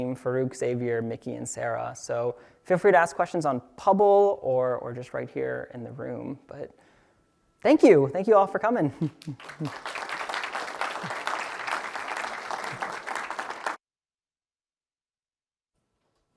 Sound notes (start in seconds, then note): 9.2 applause